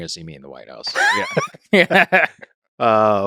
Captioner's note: chuckles